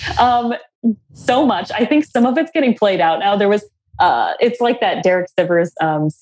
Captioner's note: laughs